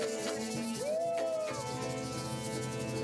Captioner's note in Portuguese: bradando